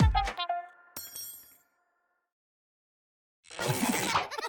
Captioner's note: spoons clanging; children laughing